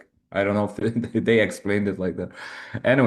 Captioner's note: chuckles